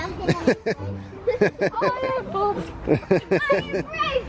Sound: laughs

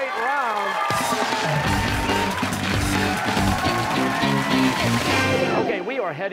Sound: cheers and applause

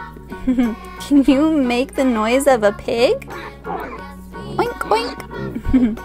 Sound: pig oinks

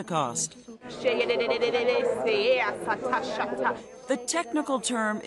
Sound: speaking in tongues

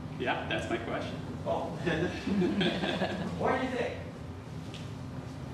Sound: laughs

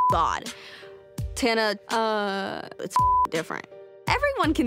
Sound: beep; beep

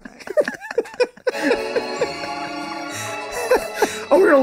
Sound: all laughing

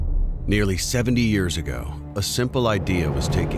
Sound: voiceover

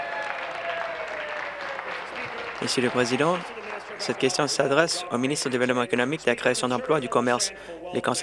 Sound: applause

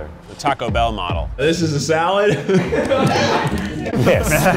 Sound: laughs

